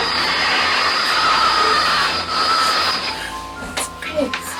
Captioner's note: static screeches